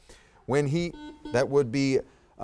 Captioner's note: buzzer dings